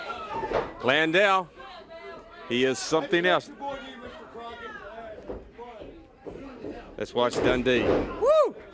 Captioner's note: crowd chatter